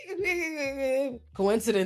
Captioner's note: laughs